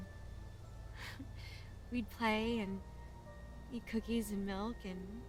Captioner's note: chuckles